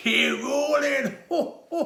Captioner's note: laughs